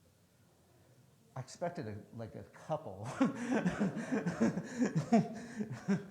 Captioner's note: laughs